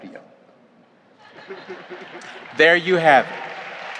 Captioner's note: audience laughs